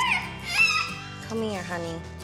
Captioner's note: whines